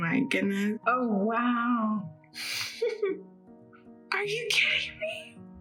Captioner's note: laughs